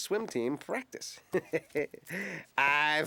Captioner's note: chuckles